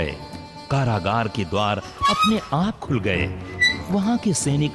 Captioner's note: door creaks